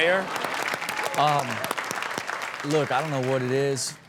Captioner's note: crowd clapping